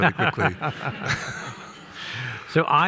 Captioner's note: people laughing